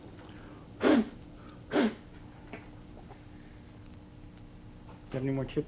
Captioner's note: blowing air